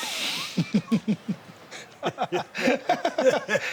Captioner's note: Sami laughs